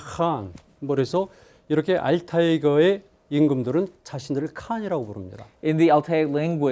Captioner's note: speaking in Korean